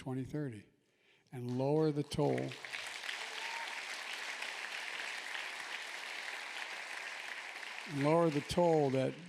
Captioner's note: applause